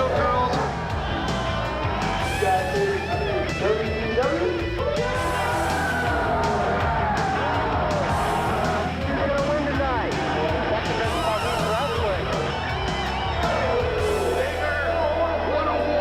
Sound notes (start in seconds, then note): 5.1 crowd cheering; 14.9 crowd cheering